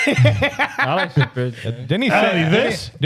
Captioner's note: laughing